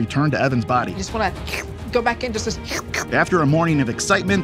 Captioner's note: slurps